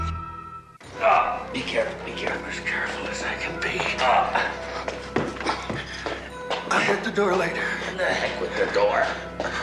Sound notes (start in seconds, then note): 4.2 groaning